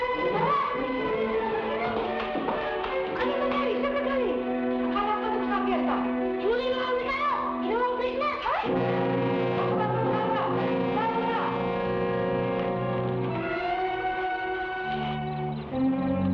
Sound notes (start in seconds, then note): 3.2 people speaking in Tagalog; 12.1 suspenseful music